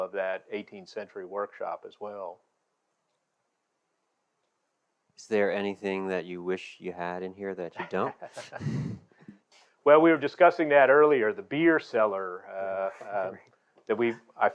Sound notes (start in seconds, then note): 7.7 chuckles